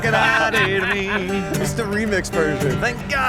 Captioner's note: laughter